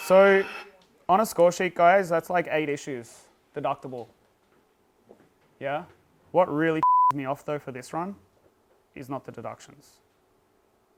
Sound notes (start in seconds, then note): 6.8 beep